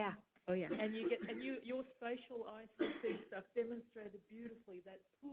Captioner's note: coughing